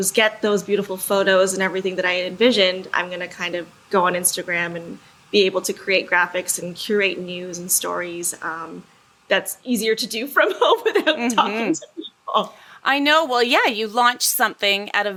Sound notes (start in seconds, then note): 10.4 laughs